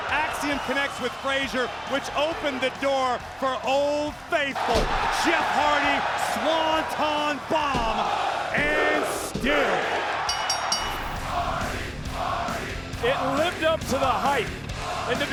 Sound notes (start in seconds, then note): 10.2 bell dinging; 10.9 scene swooshing